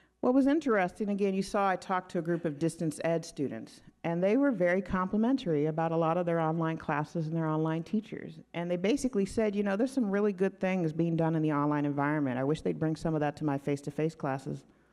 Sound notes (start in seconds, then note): none